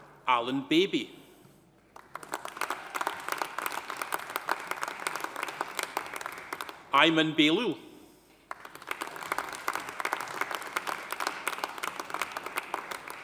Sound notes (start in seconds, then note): 1.9 audience applauding; 8.4 audience applauding